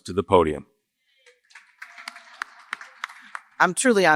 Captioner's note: applause